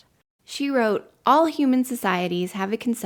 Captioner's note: none